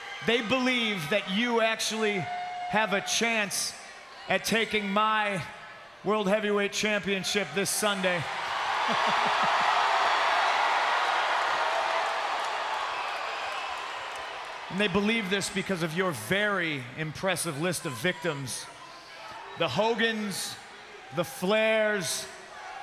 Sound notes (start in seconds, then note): 8.8 CM Punk laughs; 9.1 crowd cheers